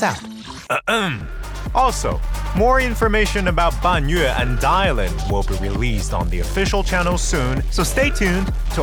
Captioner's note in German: räusper